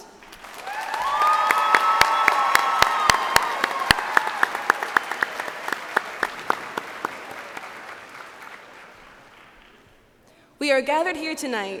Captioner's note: cheers and applause